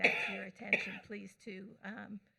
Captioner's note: speaker away from mic